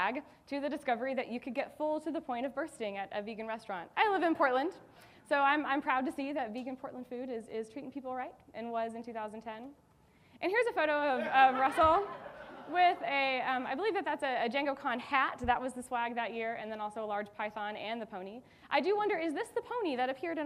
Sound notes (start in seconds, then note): 11.2 audience laughing